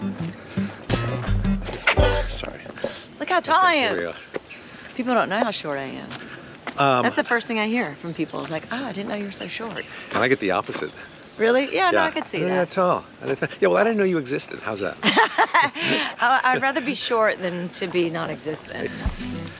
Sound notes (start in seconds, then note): 0.0 easy-going oscillating music ending; 15.0 both laughing amusingly